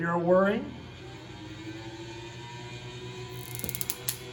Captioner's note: whirring